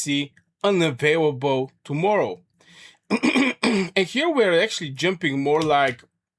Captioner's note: clears throat and cough